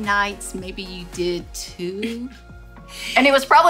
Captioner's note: chuckles